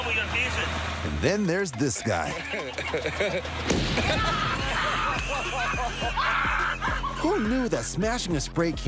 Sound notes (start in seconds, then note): 3.6 explosion; 3.8 laughter